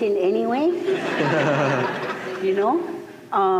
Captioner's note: laughter